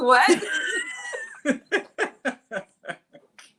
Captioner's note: laughing